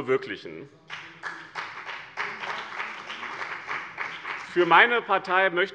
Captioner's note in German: Beifall bei dem BÜNDNIS 90/DIE GRÜNEN und der CDU